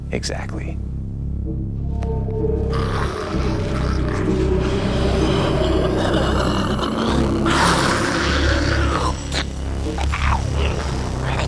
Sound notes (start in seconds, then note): 7.1 hissing noises; 9.7 ominous music